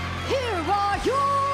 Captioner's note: bell ringing